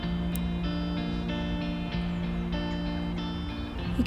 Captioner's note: gentle music; scissors snipping; birds chirping; gentle music